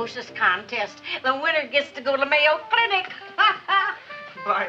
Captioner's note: laughs